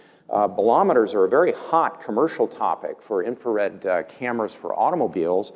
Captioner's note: none